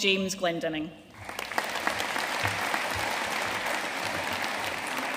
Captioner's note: audience applauding